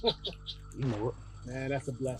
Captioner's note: both laugh